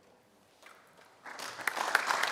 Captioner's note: applause